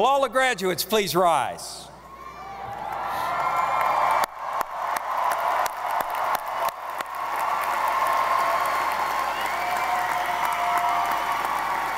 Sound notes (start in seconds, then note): 3.0 audience applauding